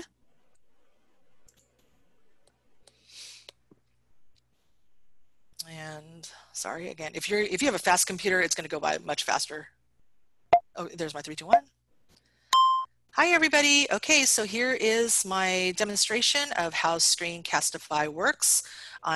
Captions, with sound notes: And sorry again. If you have a fast computer, it's going to go by much faster. [SHORT BEEP] There's my three, two, one [LONG BEEP] Hi, everybody. OK, so here is my demonstration of how Screencastify works.